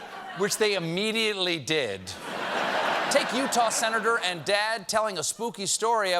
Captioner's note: laughter